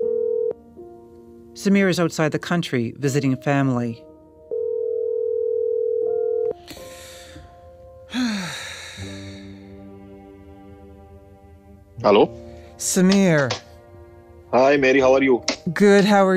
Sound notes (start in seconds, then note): 0.0 phone ringing; 4.1 sighs